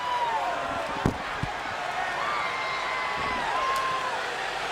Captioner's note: crowd cheering